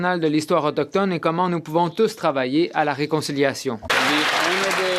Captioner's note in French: voix de l'interprète